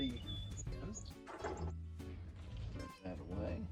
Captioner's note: bird chirping